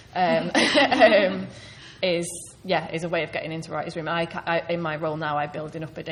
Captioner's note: laughing